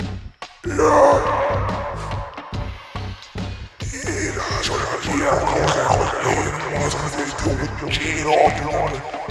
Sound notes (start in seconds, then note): 0.6 in foreign language